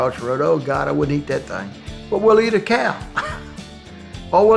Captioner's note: laugh